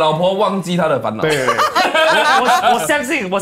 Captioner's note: laughs